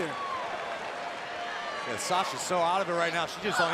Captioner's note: crowd cheering